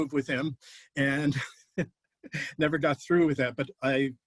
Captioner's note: laughter